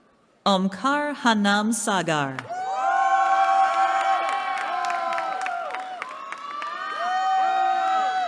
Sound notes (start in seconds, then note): 2.4 cheering